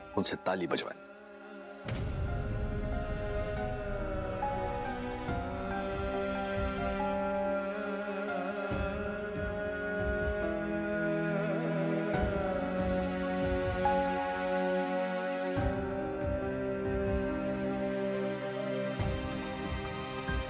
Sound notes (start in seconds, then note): 1.9 poignant vocalisation